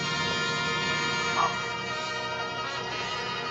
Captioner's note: groaning